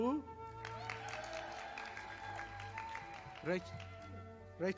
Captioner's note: audience applauding